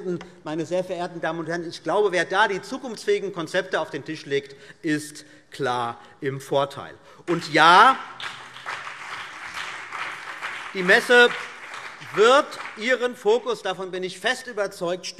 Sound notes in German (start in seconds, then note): 7.2 Beifall BÜNDNIS 90/DIE GRÜNEN und vereinzelt CDU